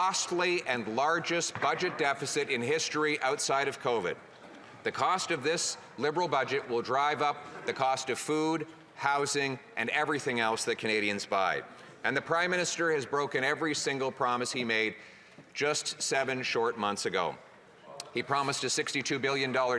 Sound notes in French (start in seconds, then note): 3.4 voix de l'interprète